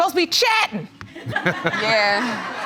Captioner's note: audience laughs